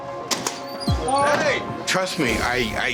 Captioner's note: door creaking